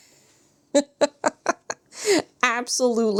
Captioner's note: laughs